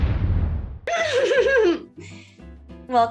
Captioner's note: maniacal giggle